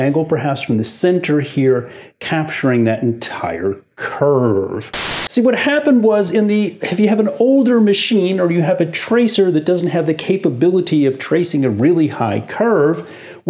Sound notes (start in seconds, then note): 4.8 static